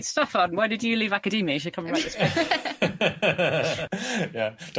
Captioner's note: laughter